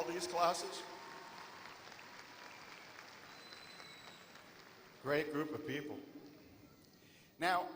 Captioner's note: applause